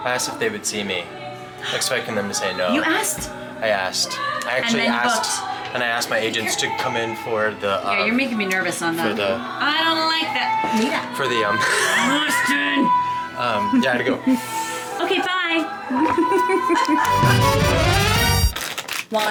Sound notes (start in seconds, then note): 14.9 laughs; 17.0 exciting music